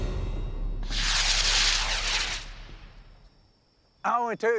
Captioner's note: rockets hissing